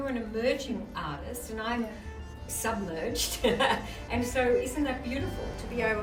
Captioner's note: laughs